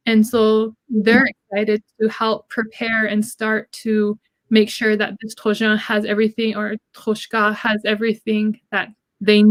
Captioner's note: speaking Dakota